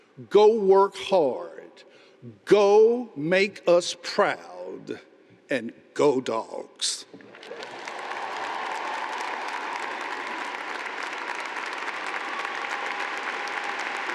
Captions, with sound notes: go work hard, go make us proud, and go Dogs. (audience applauding)